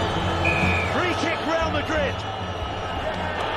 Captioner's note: peluit berbunyi